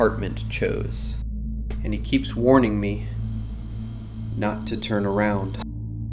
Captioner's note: voice trembling; calm, ominous